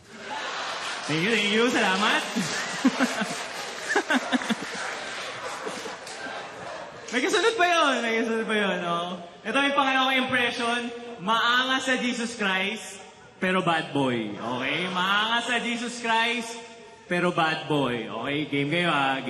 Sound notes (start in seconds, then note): 0.0 laughter; 2.6 audience cheering, laughing; 2.6 laughs